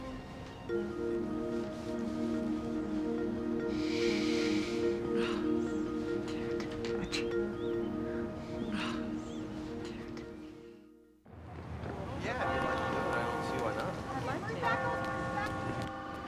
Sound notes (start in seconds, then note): 8.0 sighs